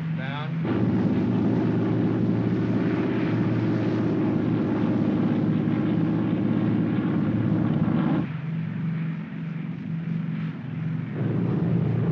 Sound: aircraft rumbles

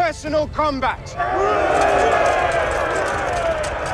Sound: shouts of encouragement

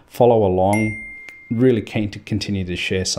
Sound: ding

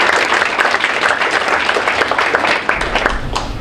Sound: group applauds

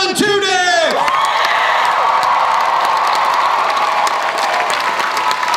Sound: crowd cheers and applauds

